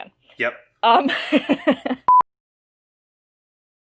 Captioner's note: laughs